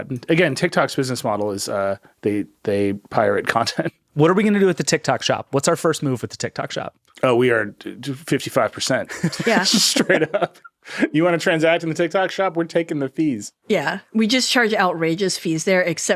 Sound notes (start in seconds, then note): 10.6 all laughing